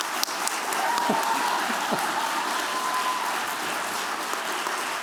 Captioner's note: cheering, applause